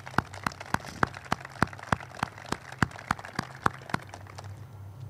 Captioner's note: group claps